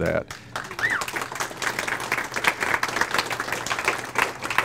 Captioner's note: audience applauds